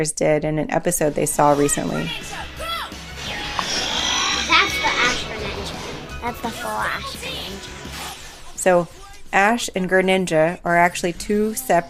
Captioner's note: Sounds of Pokemon on TV